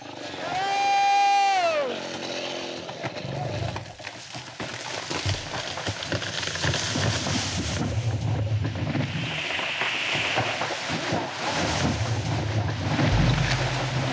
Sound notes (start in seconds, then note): 0.9 logger shouting; 4.7 tree creaking